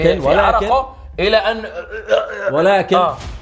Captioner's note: chokes